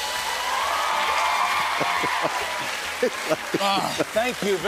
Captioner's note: cheers and applause